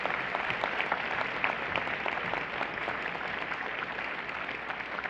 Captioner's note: applause